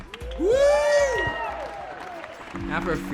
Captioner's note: crowd cheering